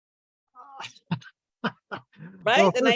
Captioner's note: laughter